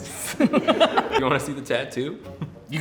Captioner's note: laughter